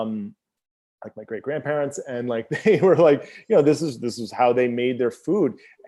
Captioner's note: laughs